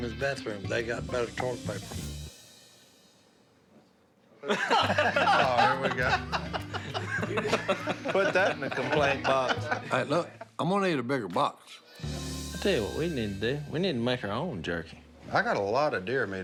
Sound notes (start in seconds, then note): 4.4 laughter